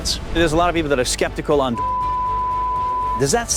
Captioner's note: beep